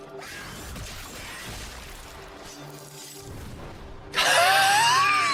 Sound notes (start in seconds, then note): 4.1 screams